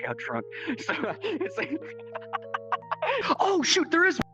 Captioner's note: laughs